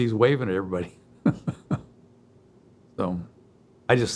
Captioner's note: chuckles